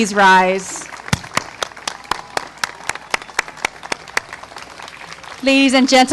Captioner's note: applause